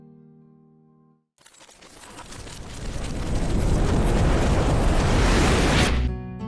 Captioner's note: time travel noises